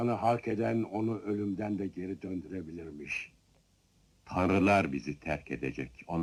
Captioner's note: laughing